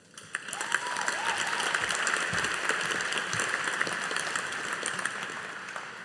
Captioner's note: audience applauding